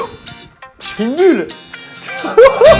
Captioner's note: laugh